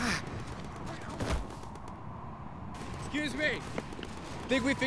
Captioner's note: Floyd groans